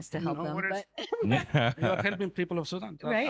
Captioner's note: laughing